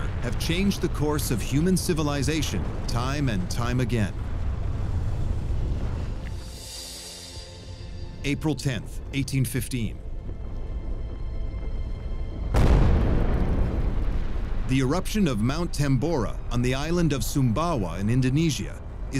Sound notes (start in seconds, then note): 4.5 deep rumble; 6.2 tranquil music; 10.4 distant rumble